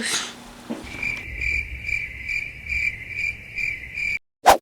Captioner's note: crickets chirping